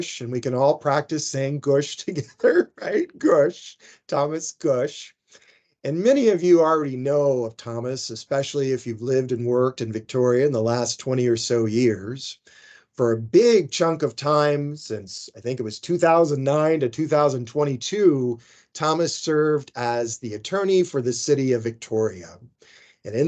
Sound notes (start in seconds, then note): 3.6 laughing